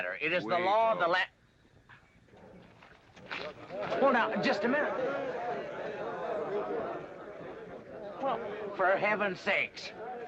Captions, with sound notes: - It is the law of the land... - We go. - Well, now, just a minute. (crowd chattering) Well, for heaven sakes.